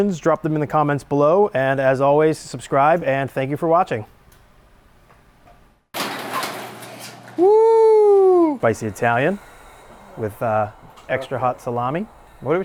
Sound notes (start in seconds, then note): 6.0 door rattling